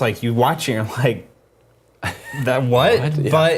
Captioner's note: laugh